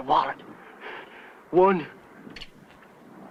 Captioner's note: cocking gun